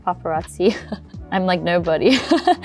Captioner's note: laughs; chuckles